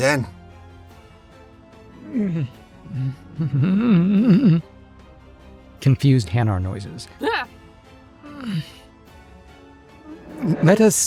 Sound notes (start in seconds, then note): 2.0 groaning; 8.1 chuckles